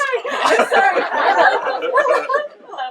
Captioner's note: participants laughing